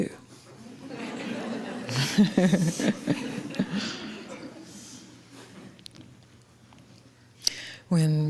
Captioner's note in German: Gelächter